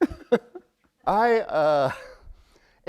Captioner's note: chuckle